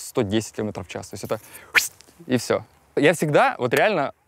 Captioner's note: phwhht!